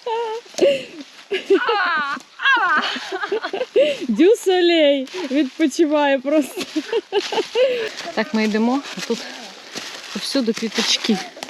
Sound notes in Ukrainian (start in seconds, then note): 1.2 сміх